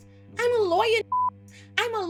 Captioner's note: beep